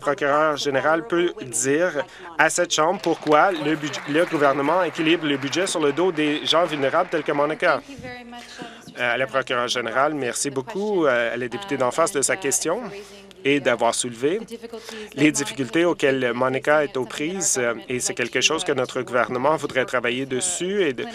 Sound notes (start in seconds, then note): 5.5 applause